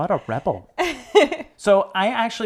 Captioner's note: laughs